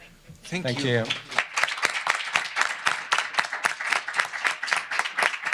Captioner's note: applause